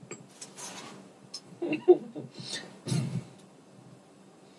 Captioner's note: laughter